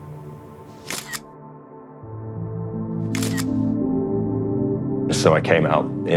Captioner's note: camera shutter repeats - schuck - schuck